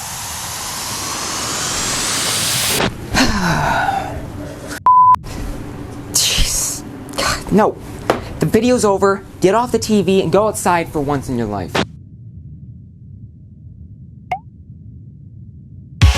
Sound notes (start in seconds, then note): 3.1 sigh